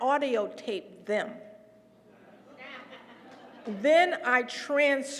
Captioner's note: laugh